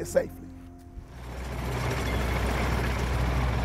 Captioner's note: whirring